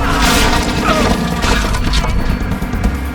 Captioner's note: crashing